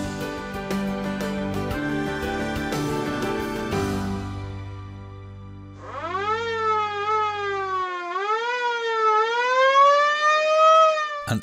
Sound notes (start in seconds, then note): 0.0 inspirational music; 5.7 siren wailing